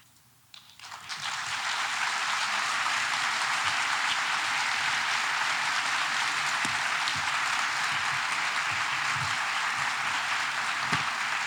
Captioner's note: audience applause